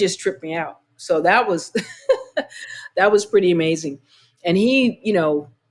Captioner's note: laughter